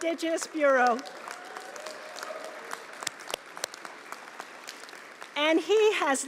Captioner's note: applause